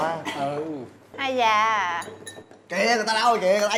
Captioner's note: sighing